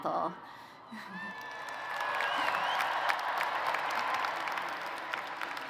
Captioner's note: applause